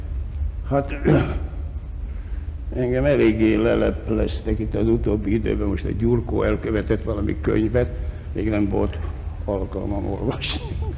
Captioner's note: laughs